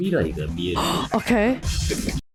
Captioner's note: gasp